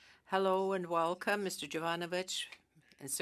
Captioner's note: speaking French